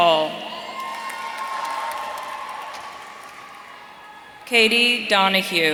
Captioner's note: audience cheering